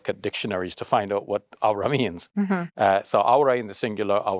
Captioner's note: speaks Arabic